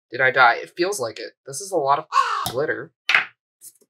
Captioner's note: caw